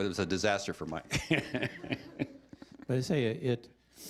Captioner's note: chuckling